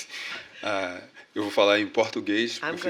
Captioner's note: speaking portuguese